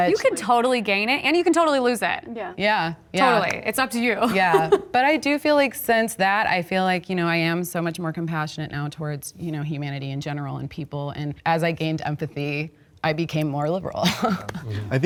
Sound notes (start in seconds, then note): 4.3 laughs